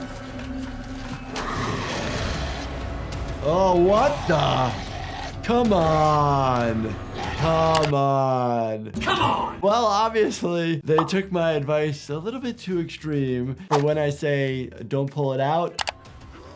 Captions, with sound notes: (dramatic music) (zombie growling) Oh, what the? Come on. Come on. - Come on! - Well, obviously they took my advice a little bit too extreme, but when I say don't pull it out.